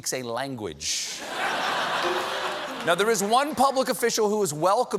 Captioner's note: laughter